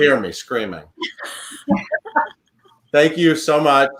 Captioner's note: laughing